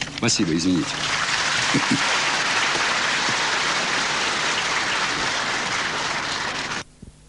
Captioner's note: applause